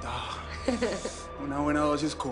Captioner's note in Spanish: Risas